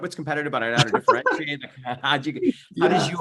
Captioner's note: laughs